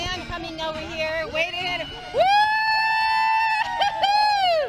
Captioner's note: cheering